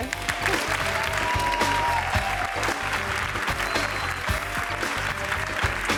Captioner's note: audience cheering; hands clapping